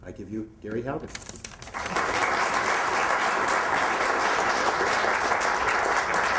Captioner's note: applause